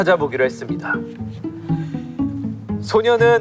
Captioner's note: hahaha